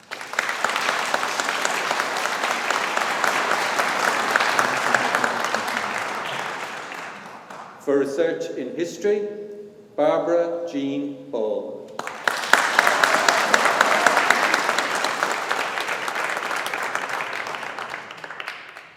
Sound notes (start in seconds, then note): 0.0 audience applauding; 12.0 audience applauding